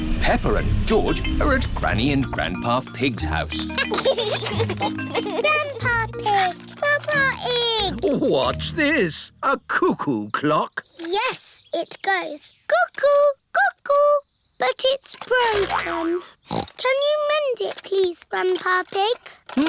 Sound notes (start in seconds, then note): 3.4 giggles; 15.5 snorts